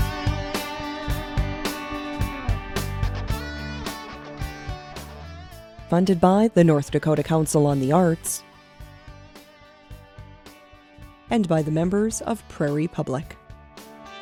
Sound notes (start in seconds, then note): 6.0 voiceover